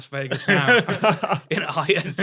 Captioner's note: chuckle